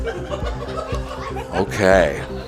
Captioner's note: laughs